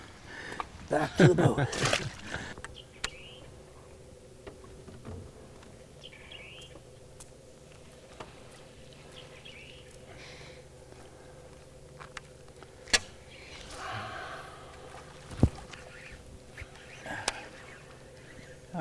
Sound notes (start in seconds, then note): 3.0 chuckling; 4.7 birds chirping; 9.3 rod whipping